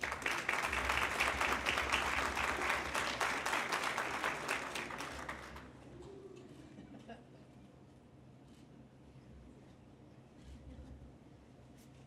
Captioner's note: applause